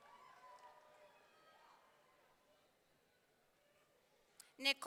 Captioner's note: audience cheering